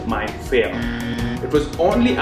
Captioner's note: alarm buzzes